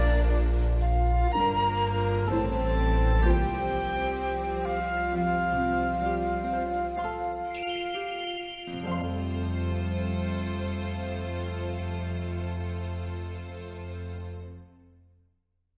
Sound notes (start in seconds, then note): 7.4 bright tinkling